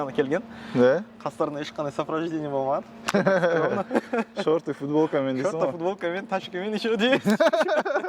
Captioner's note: laughing